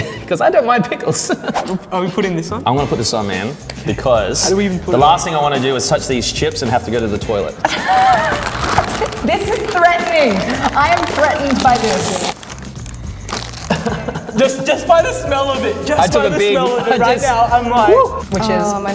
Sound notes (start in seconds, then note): 7.6 bags crinkling; 13.6 laughing